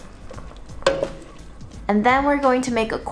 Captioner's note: pot clangs